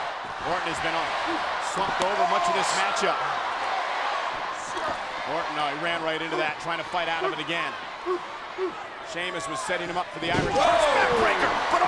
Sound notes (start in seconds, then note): 3.7 applause